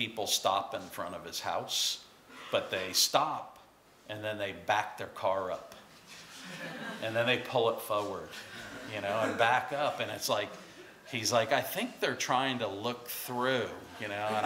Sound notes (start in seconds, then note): 6.3 laughter